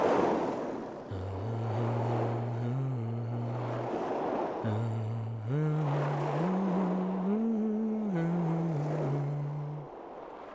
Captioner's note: humming